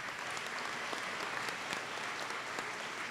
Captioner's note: applause